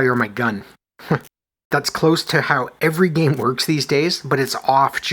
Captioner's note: chuckles